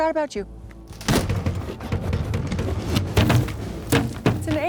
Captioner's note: box rattles